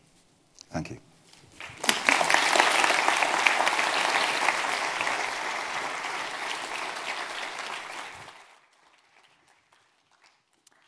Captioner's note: applause